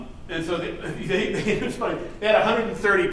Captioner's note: laughs